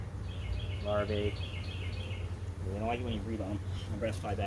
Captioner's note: birds chirping